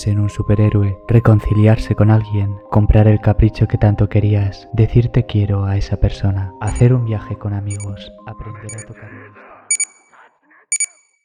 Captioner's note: alarm clock